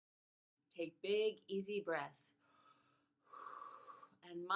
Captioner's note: exhales